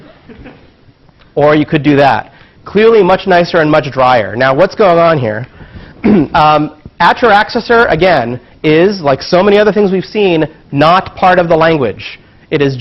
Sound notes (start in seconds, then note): 0.0 laugh; 6.0 cough